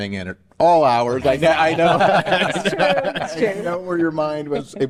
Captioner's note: all laugh